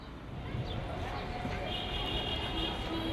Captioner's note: urban noises